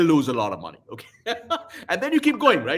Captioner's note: laughs